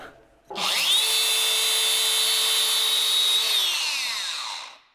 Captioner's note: cutting machine whirring